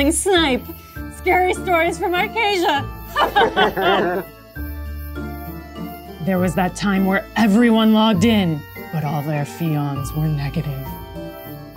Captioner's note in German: Lacht